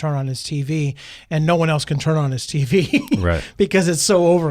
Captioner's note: laughs